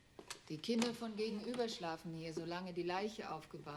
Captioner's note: speaking german